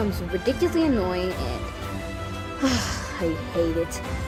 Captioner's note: sigh